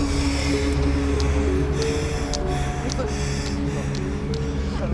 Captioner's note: tapping